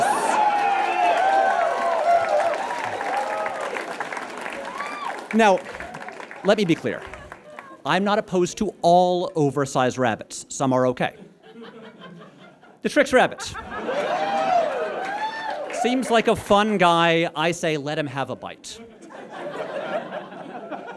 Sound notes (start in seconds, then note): 0.0 audience cheers and applauds; 13.7 audience laughs and cheers; 18.8 audience chuckles